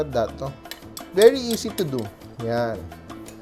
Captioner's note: clang